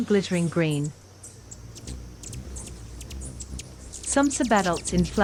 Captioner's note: bird chirping; bird's wing flapping